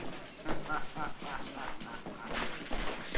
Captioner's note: del gardo laughing